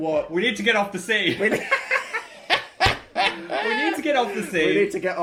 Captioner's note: laughter